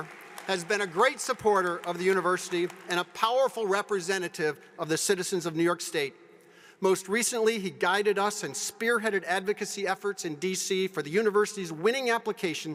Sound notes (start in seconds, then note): 6.1 applause